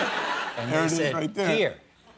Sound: laughter

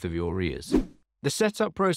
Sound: air whooshing

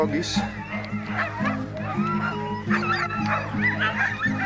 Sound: dogs barking

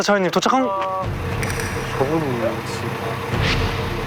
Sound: ominous noise echoes from somewhere

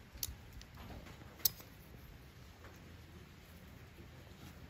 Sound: allen key clanging

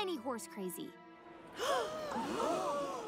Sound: gasping

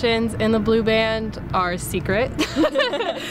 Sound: laughing

